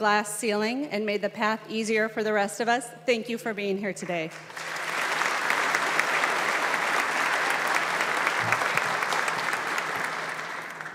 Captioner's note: applause